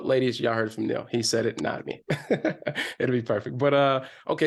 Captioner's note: laughs